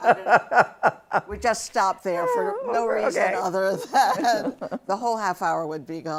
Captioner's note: laughter